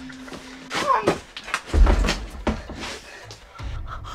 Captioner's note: Jessica groans